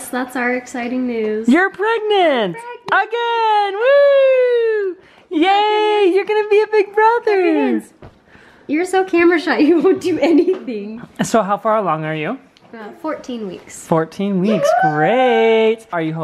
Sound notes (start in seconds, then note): 1.6 voiceover; 11.5 voiceover